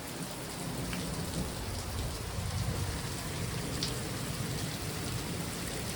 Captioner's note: thunder